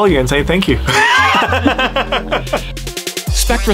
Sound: laughing

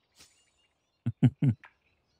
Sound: chuckles

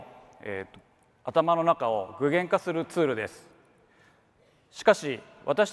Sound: speaks in foreign language

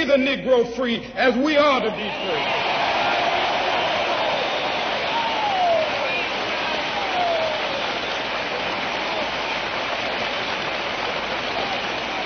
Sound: applause

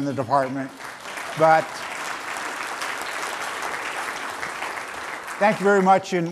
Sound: applause

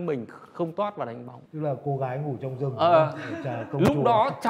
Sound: laugh

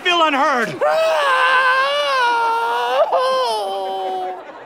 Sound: shrieks

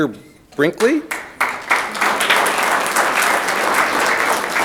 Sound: audience clapping

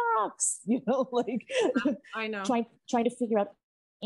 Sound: laughing

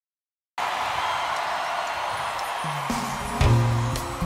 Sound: audience cheering; exotic music

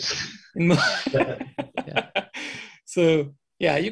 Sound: laughter

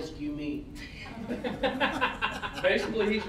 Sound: all laughing

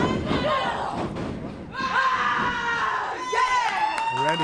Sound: Miranda yelling

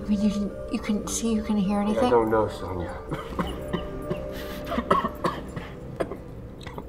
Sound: cough cough

